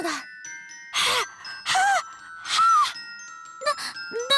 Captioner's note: manic panting